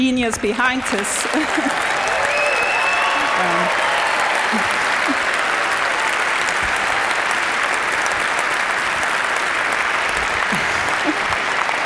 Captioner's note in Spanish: Aplausos